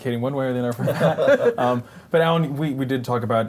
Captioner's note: laughter